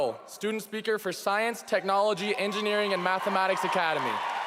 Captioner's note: cheering and applause